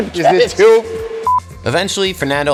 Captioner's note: beep